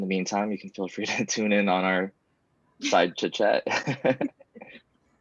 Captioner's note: laughs